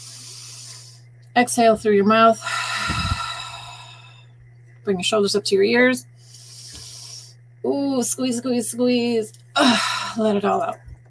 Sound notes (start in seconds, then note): 0.0 inhaling; 2.4 exhaling; 6.2 inhaling